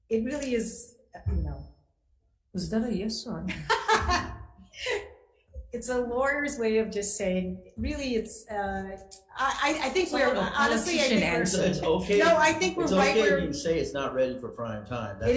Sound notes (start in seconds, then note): 3.4 laughing